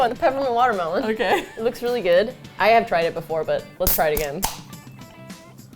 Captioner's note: laughs